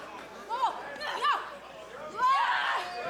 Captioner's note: crowd chatter